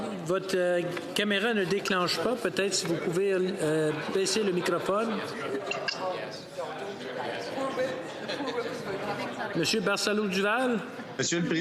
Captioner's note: speaking French